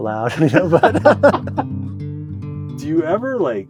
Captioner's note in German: beide lachen